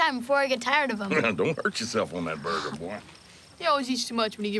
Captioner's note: chuckles